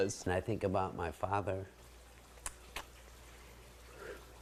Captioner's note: exhales